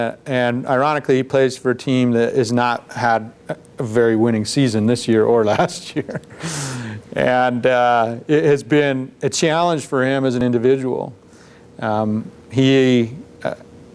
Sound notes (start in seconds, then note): 5.5 chuckles